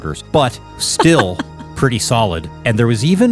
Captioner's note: laughing